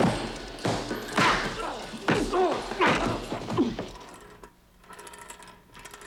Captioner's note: thudding; man groaning